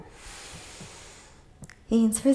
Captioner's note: inhales